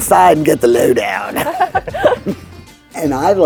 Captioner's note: everyone chuckles